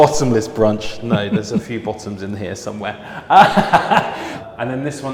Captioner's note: laughs